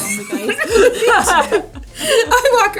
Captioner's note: both laughing